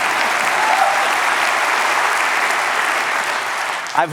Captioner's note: applause